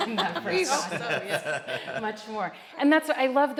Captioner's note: laughs